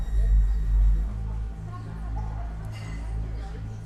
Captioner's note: dramatic music; people chattering